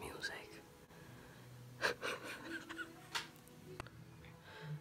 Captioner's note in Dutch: gelach